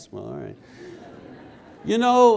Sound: the audience laughs

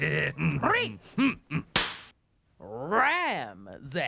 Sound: cracks pointer

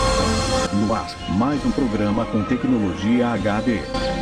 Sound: male announcer speaking Portuguese

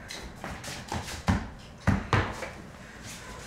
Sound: stomping

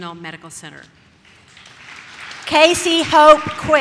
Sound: audience claps

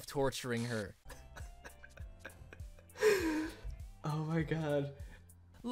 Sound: laughing

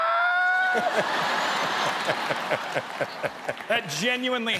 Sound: laughs

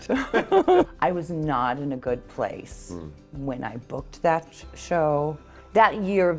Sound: laughs

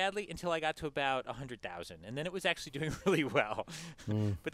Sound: laugh

